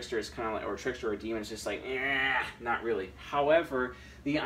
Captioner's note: groaning